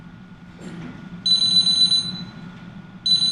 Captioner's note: phone ringing